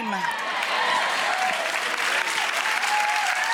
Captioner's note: applause